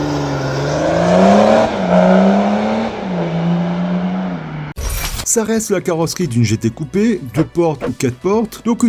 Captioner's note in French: extrait son voiture